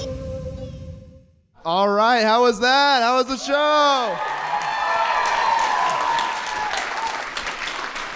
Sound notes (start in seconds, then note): 5.6 enthusiastic applause